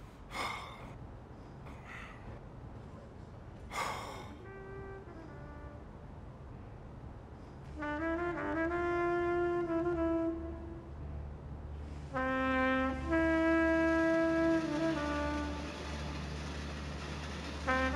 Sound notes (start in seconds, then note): 0.2 Nosa sighs; 3.6 Nosa sighs; 13.1 sound of Moving Train